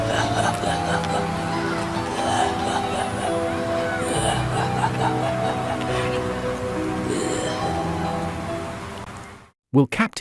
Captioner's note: evil laugh